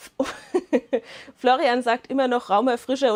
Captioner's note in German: Lachen